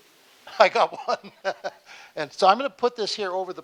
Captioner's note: laughing